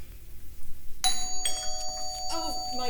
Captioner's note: doorbell